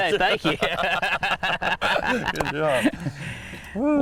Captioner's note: both laughing